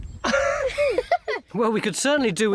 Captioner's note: all chuckle